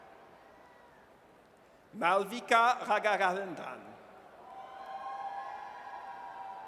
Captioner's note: audience cheers